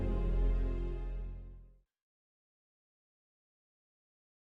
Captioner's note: none